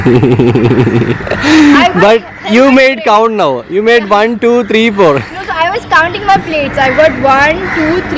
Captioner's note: laughing